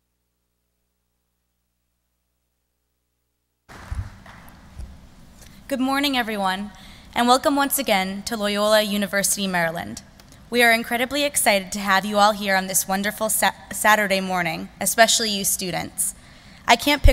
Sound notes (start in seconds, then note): 3.7 applause